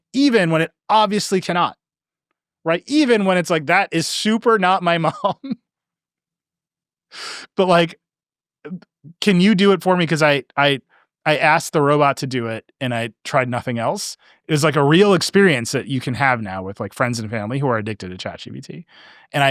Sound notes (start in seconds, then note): 5.0 laughing